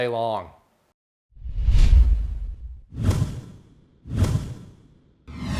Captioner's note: intense swooshing